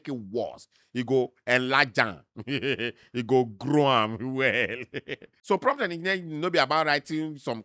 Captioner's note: laughs